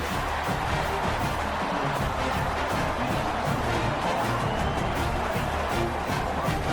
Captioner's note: crowd Noises